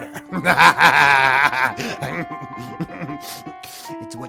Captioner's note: Bob laughing